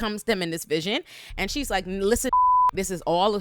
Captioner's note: beep